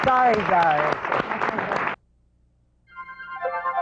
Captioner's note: applause